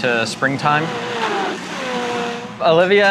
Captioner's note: mixer whirring